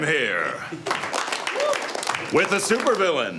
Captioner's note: applause